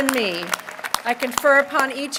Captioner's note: applause